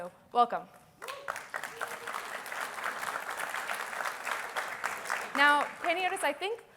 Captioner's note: applause